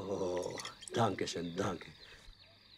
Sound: in German

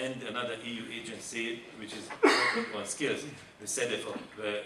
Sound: man coughing

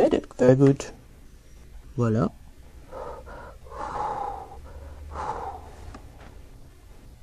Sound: puffing

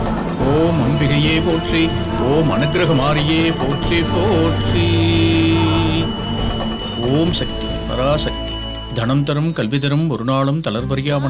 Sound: chanting

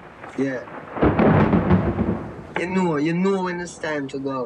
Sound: thunder cracks

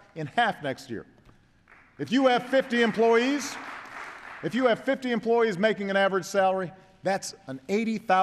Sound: applause

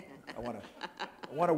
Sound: laughter

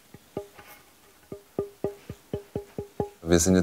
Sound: dull sounds

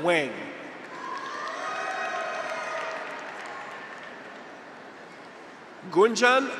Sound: graduates cheer; audience applauds

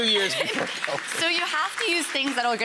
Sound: audience clapping

